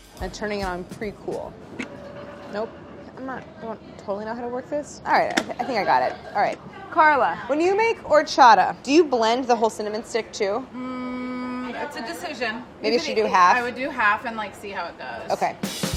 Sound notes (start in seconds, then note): 0.0 light percussion music; 2.4 machine whirring